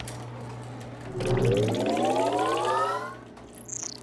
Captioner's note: computer whirring